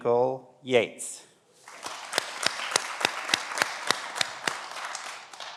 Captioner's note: everyone applauds